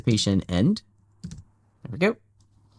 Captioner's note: keyboard clicks